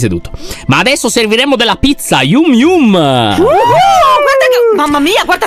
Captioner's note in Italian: tutti esultano